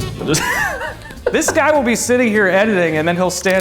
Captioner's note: upbeat brass jazz music; laughing